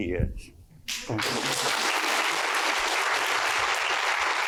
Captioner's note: applause